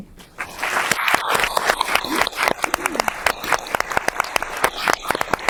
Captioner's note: audience applauding